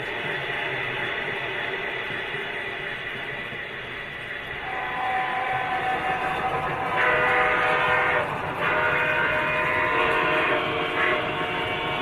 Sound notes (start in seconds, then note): 0.1 steam hisses; 7.4 horn blares